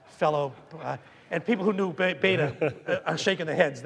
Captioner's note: audience laughing